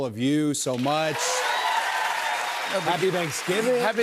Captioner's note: cheers and applause